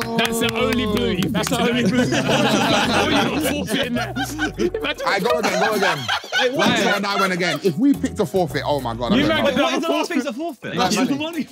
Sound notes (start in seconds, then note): 1.5 everyone laughing; 5.9 laughing